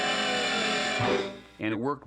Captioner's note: whistle tooting; horn honks